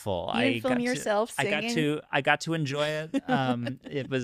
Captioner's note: laughing